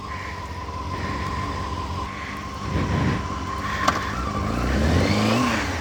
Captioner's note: engine noises